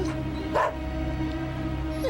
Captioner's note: whimpering